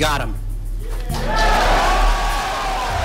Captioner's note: wild applause